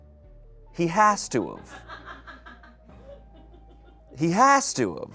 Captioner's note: people laugh